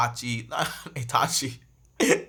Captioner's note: laughs